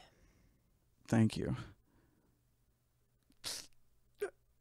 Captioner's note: groans